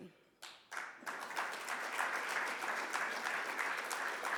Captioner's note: audience clapping